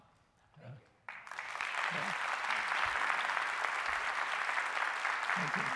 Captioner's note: applause